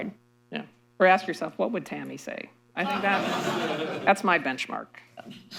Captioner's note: laughter